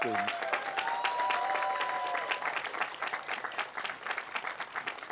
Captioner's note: cheers, applause